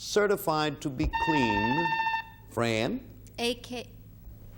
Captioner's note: buzzer beeping